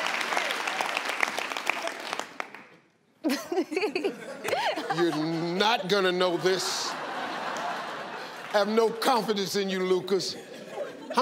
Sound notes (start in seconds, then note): 3.2 contestants laughing; 6.4 crowd laughing